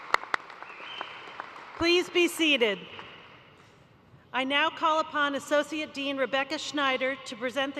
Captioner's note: applause